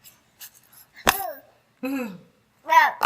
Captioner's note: baby chattering